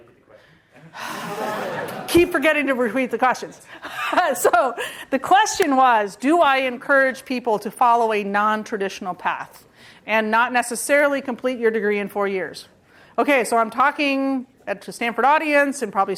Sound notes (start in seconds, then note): 0.9 sighs